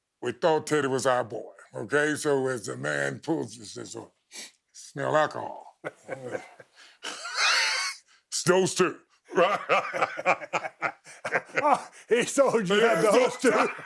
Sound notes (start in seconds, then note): 5.6 chuckling; 9.3 both laughing